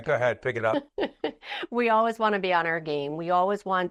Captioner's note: laughs